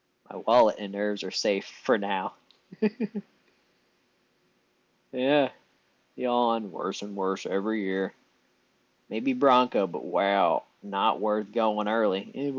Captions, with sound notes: My wallet and nerves are safe for now. [laughs] Yeah. Beyond worse and worse every year. Maybe Bronco, but wow. Not worth going early.